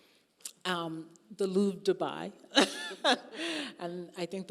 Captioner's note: laughing